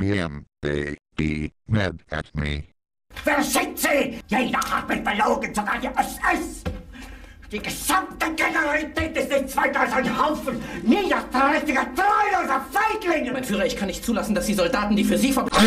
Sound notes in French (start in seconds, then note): 2.9 criant en anglais clair; 15.5 furieusement